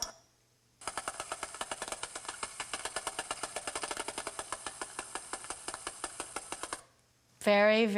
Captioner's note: clicking varies in speed; low-pitched rapid clicking sound